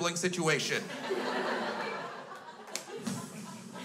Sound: crowd laughs

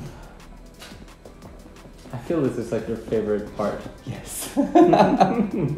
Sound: laughter

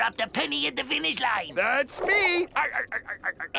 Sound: laughs

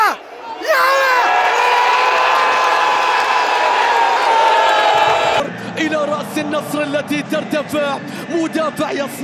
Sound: clap

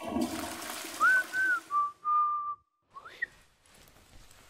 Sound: whistling

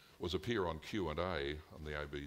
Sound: none

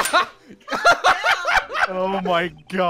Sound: laughter

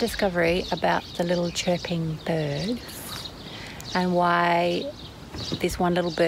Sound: said slightly sarcastically and with a tinge of annoyance

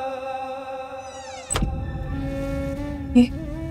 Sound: door closes

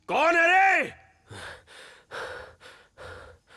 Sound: panting

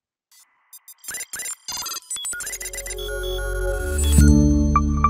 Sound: icons popping and beeping; logo chimes

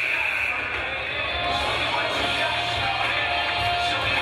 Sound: game buzzer buzzes

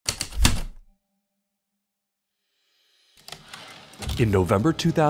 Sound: heavy typewriter keystrokes, typewriter return slide

